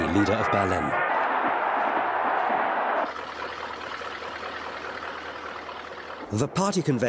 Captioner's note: crowd cheering; plane engine humming